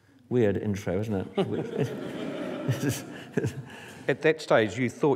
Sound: laughter

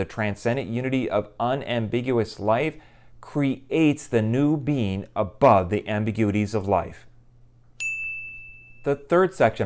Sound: chime

